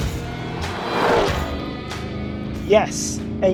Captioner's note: engine revving